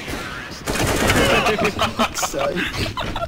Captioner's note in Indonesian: Ketawa